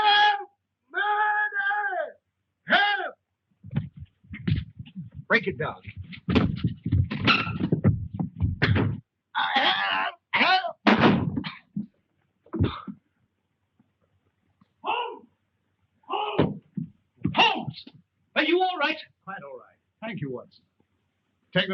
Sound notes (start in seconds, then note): 9.4 grunting; 10.9 gun firing